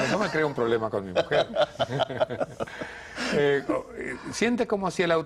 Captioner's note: risas